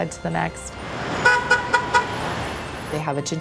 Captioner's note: horn honks